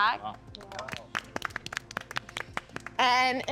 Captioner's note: others applauding